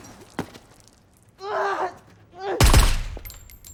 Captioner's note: officer moaning